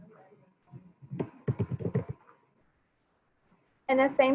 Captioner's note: keyboard tapping